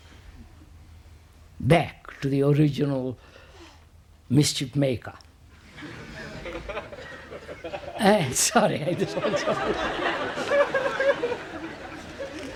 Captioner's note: Risas